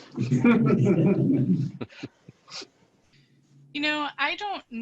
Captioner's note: chuckling